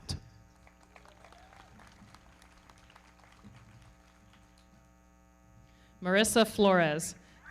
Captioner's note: everybody clapping; audience cheering